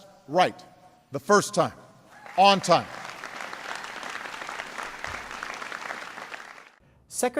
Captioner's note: applause